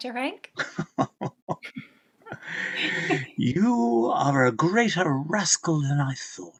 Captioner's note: laughing